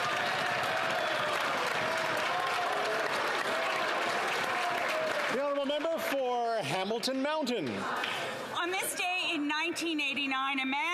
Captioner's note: some Applause